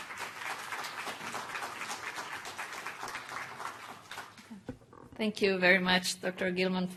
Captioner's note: applause